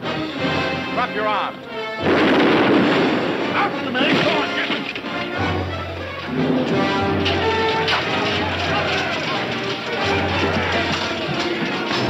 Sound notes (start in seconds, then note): 0.3 dramatic music; 2.0 gun firing; 2.8 man shouting; 7.2 men shouting; 7.6 swords clanking